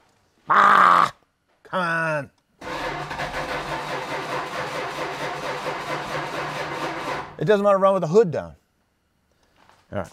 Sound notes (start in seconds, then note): 2.6 ignition stutters